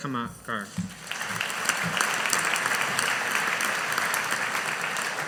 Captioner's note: audience applauding